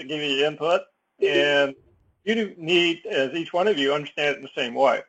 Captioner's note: laugh